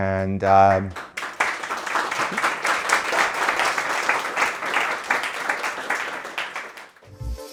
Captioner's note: applause